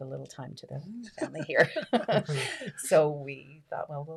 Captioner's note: laughing